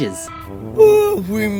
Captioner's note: yawns